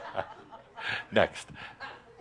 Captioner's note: a few chuckles; laughter